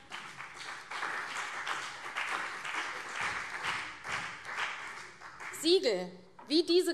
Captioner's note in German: Beifall CDU und BÜNDNIS 90/DIE GRÜNEN